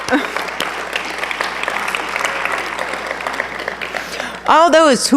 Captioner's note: applause